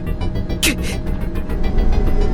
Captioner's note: wince